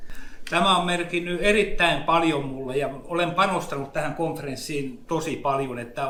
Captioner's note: speaks in Finnish language